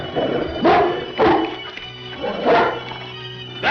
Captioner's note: dog barks